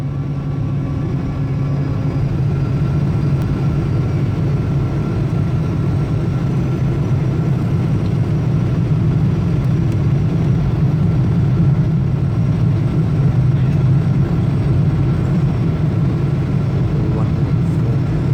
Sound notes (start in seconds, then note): 3.8 aeroplane Engine Sounds; 13.0 general Passenger Chatter